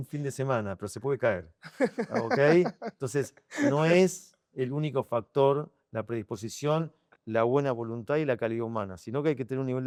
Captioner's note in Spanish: risas